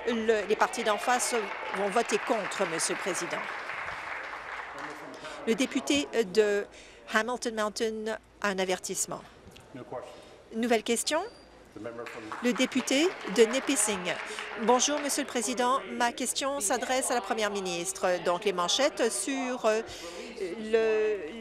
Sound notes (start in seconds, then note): 4.3 applause